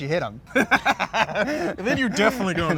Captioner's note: laughing